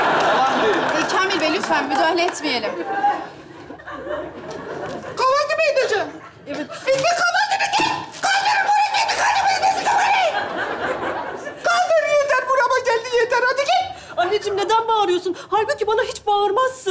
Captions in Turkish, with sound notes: -Yalan diyor. -Kamil Bey, lütfen müdahale etmeyelim. Kahvaltı mı edeceksin? -Evet. -Ekmek kalmadı evde. (anlaşılmaz bağırır) Kaldır, yeter, burama geldi. Yeter hadi git. Annecim neden bağırıyorsun? Halbuki bana hiç bağırmazsın.